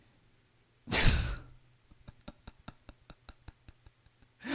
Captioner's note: laughs